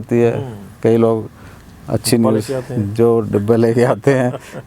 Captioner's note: laughing